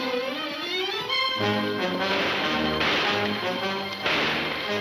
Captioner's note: gunshots banging